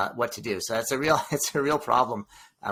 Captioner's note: laughs